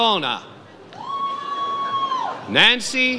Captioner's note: audience cheers